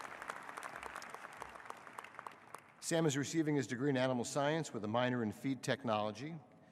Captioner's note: applause